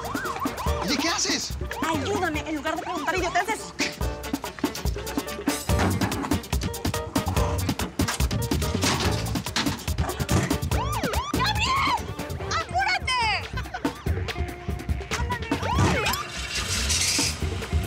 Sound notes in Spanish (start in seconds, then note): 0.0 sirenas de la policía; 0.2 exclamaciones; 10.6 sirenas cerca